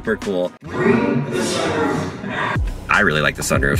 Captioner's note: distorted Voice